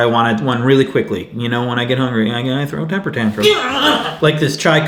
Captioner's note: yelling